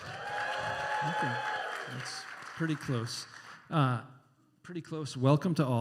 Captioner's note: similar cheering and applause